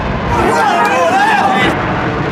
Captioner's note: cheering